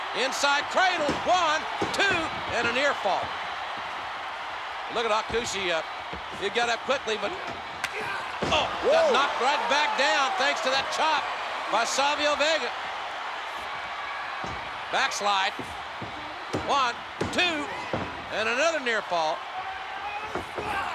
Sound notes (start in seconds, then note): 3.4 spectators cheering